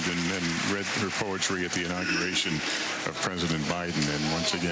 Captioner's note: cheers and applause